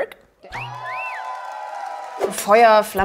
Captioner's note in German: Pfiffe, Jubel, Applaus